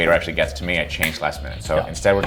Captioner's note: snapping